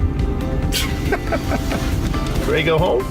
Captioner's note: driver laughs